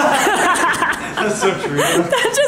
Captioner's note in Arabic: يضحكان